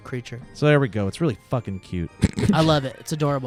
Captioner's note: laughs